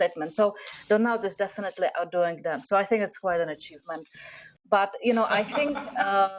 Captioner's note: laughter